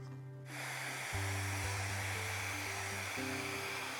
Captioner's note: dryer whirring